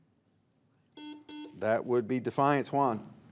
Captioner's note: buzzer beeps